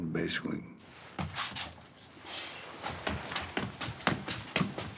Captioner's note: heavy footsteps